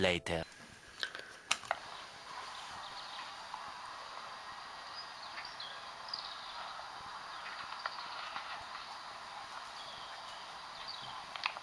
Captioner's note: very faint birdsong, level crossing bells and barking dog